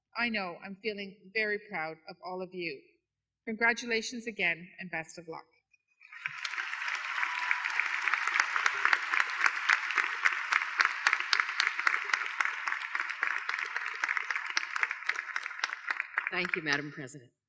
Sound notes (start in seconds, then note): 6.0 applause